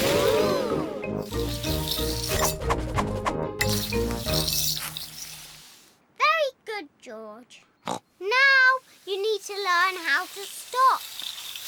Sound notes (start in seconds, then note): 7.5 snorts